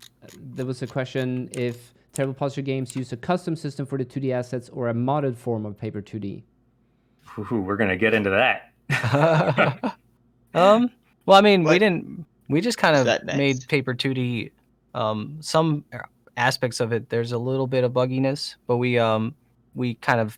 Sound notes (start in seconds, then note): 8.9 laughter